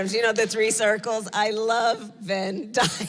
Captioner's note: laughs